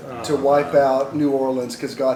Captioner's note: collective groan